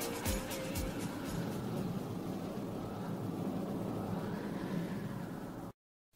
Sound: wind whistling

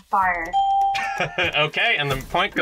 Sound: bell rings; laughs

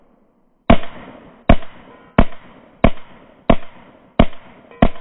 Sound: gun firing in slow motion

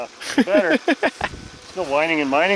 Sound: laughing

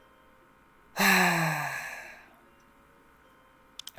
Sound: exhales

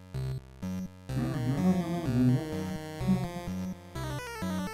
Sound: humming along

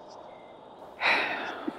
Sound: sighs

